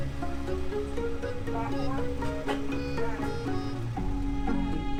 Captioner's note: chatter